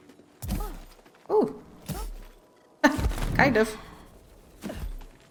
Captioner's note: laughs